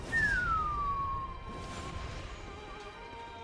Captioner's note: whistles